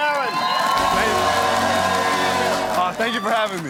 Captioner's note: crowd cheering